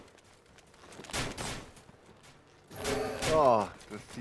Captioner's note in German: Videospielgeräusche